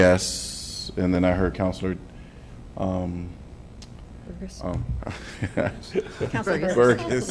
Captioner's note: laughter